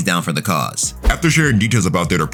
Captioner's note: air whooshing